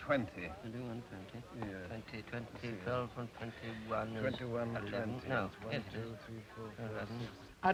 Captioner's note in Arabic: ميثاق وكالديكوت يتمتمان